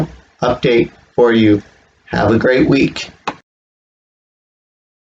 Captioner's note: click